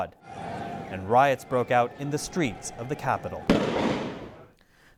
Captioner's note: gunfire